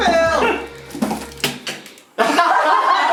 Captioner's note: shouts and laughs; thud; all laugh